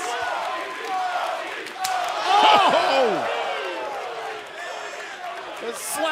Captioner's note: crowd cheering